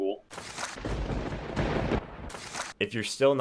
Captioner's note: thunder crackles